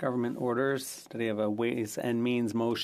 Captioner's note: speaking French